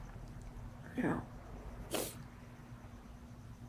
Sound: sniffling

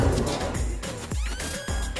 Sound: pat

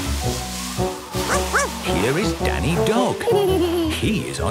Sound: barking; laughing

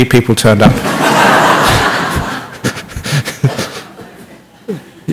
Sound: laughter

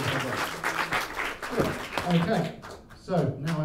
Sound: applause

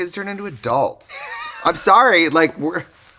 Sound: laughing

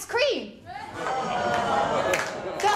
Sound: audience groans

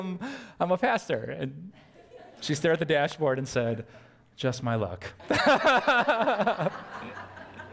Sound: pastor: Laughter

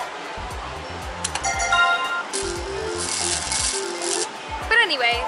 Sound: slot machine noises

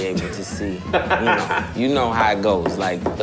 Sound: laughter

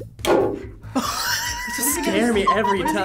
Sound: nail thuds; wheezes

